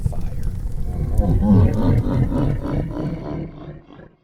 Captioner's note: evil laughter